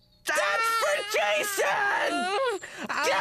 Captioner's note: yelling; groaning